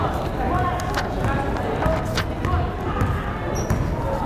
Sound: crowd chattering

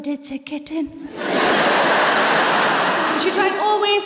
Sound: laughter

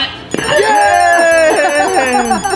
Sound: group cheering

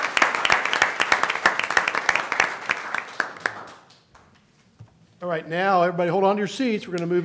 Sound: applause

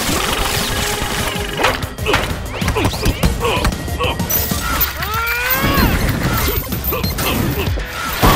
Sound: grunting

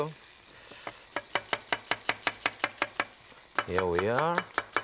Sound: knife chopping

